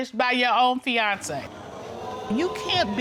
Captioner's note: audience exclaiming